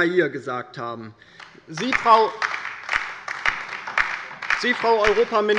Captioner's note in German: Beifall bei der LINKEN